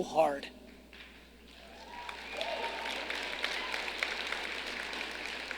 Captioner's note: audience clapping